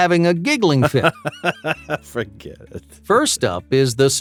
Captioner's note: man giggling